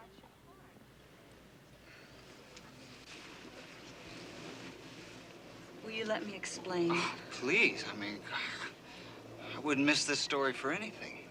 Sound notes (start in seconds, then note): 1.5 Annie sighs